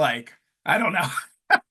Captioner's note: laughs